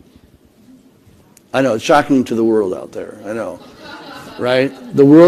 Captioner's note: laughter